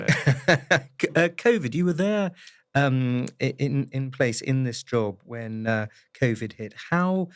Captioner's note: laugh